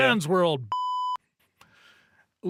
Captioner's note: beep